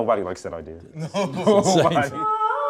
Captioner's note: laughing